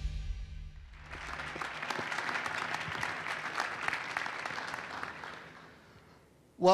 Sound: applause

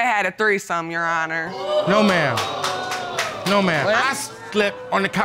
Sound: audience exclaiming

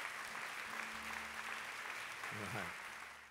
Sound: applause

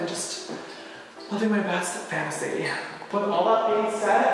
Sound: sighs

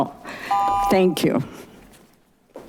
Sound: buzzer chiming

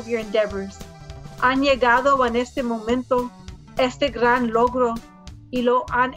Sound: speaks in foreign language

